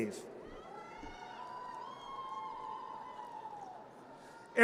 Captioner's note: audience cheers